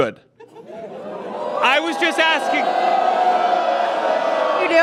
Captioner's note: audience jeers and boos